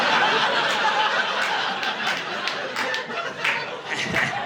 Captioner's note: audience laughing